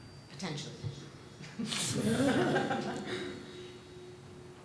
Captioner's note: laughter